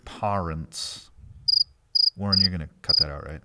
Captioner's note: crickets chirping